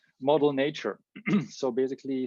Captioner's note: clears throat